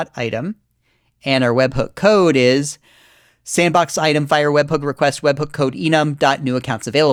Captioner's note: deep breath